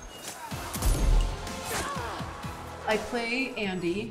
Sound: gunshot firing

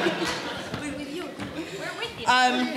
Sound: laughter

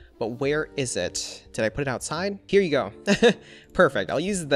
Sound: laughs

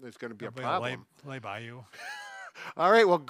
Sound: laughs

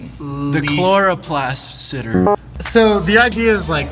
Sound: buzzer buzzing

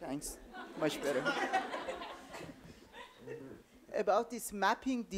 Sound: audience laughing

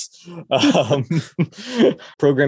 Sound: both laugh

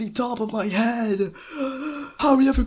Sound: gasp for air

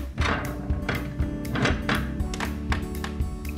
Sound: scrapping; light clicking

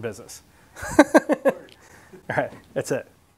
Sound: laughs

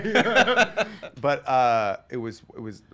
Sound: laughing

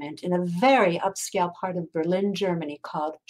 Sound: none

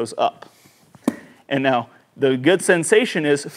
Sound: golf club thudding

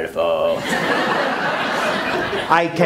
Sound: laughter

